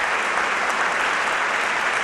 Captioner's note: applause